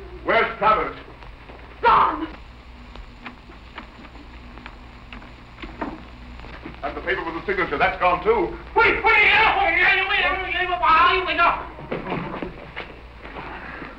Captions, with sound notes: Where's Travers? Gone! And the paper with the signature, that's gone too. Wait. [non-english speech]